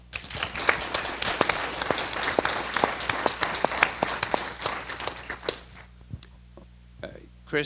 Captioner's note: applause